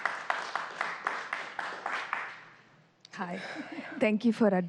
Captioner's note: applause